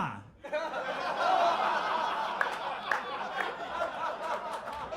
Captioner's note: audience laughing